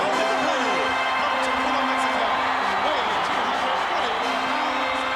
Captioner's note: crowd cheering